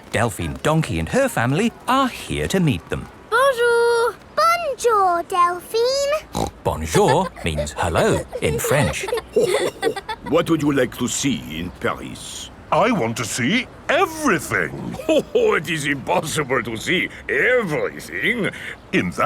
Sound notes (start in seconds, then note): 6.2 snorts; 9.6 chuckles